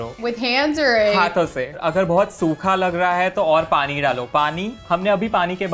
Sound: speaking in Hindi

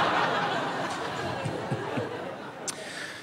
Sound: audience laughs

